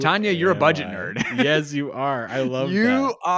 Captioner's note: laughs